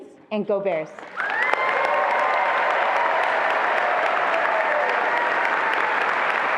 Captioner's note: attendees applauding and cheering